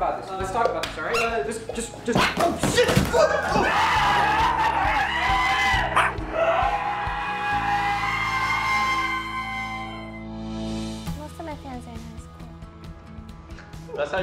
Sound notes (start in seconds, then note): 3.1 screaming; 3.3 Temmie barking aggressively